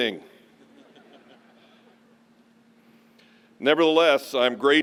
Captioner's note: chuckles